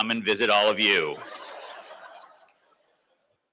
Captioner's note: laughter